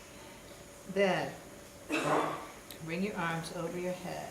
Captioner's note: audience member coughs